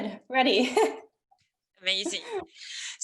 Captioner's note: chuckles